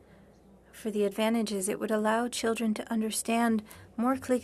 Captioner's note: speaking French